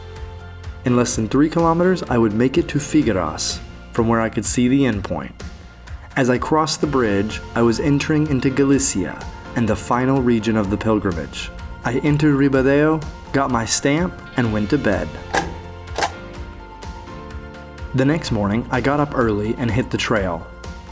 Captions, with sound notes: In less than 3 kilometers I would make it to Figueras from where I could see the endpoint. As I crossed the bridge I was entering into Galicia and the final region of the pilgrimage. I entered Ribadeo, got my stamp and went to bed. [stamp] The next morning, I got up early and hit the trail.